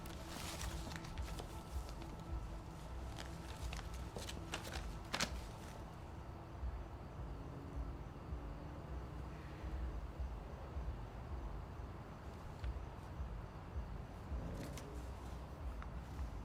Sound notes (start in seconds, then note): 0.0 paper rustling; 9.2 insects chirping; 12.7 wind whooshing